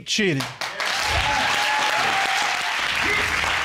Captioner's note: audience cheering